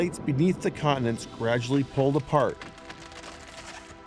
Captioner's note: cracking